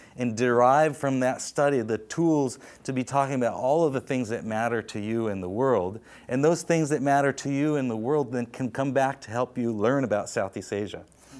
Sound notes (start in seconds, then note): none